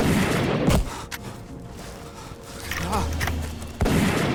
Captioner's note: gunfire pops